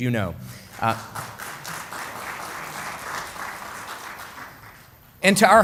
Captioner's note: applause